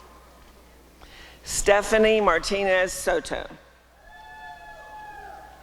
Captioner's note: applause and cheering